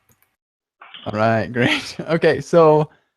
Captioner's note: laughs